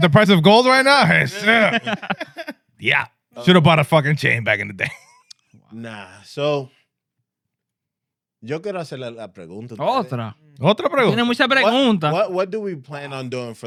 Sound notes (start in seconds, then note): 1.2 laughing; 9.3 speaking In Foreign Language